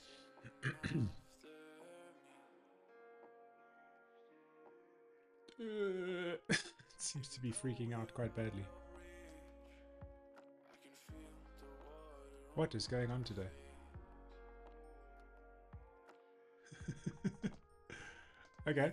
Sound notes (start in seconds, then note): 0.5 clears throat; 3.3 groans; 13.8 laughs